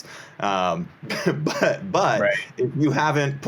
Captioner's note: chuckles